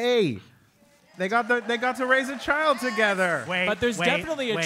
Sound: applause

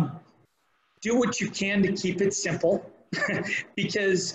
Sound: laughs

